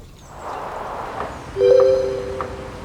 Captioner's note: notification